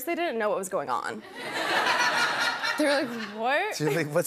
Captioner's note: laughter